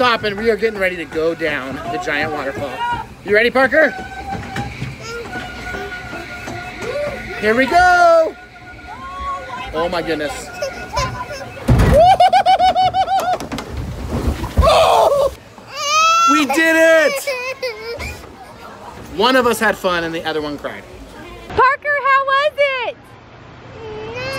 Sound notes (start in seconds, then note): 10.8 whimpers; 14.8 grunts; 15.7 cries